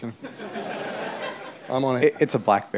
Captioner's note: laughter